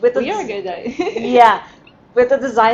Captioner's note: laughing